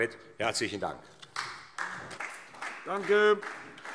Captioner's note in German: Beifall SPD